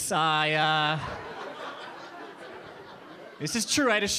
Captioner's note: audience laughing